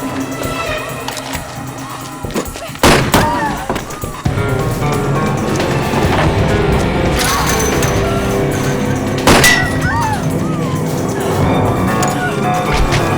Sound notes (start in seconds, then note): 2.8 gun firing; 7.3 Lisa shouts; 7.3 gate rattling; 9.5 gun firing; 10.3 Lisa gasping